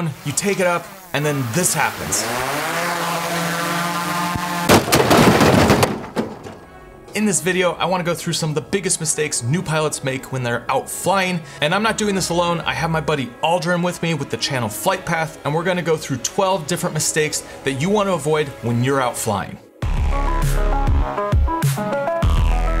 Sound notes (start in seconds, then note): 2.5 drone whirring; 4.8 drone crashing; 19.7 upbeat music